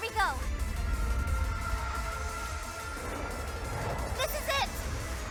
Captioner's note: magical sound effects